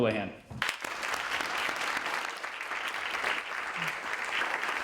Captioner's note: audience applauding